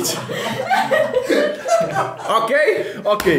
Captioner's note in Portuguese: risos